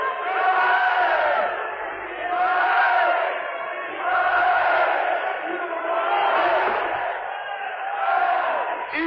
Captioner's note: crowd chanting